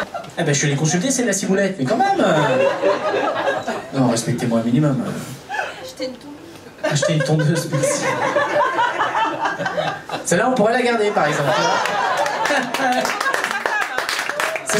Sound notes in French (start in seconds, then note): 1.9 rires public; 6.8 rires public; 11.3 applaus public